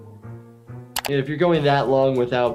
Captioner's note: keyboard clicking